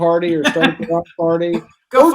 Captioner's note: laughs